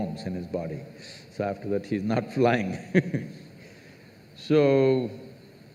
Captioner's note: laughs